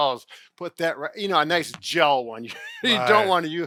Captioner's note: chuckles